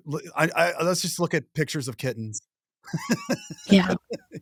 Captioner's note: laughs